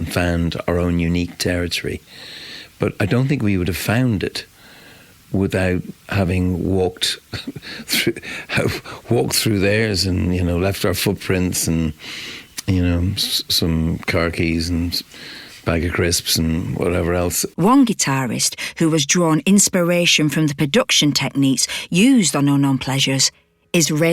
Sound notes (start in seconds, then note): 7.3 laughs